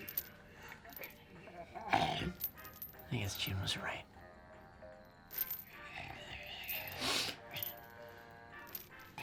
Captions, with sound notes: (ZOMBIE WALTER GRUMBLING) I guess June was right. (BUCKY SNIFFLES)